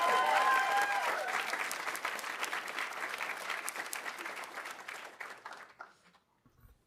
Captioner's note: audience cheering; audience applauding